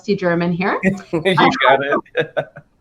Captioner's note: laughing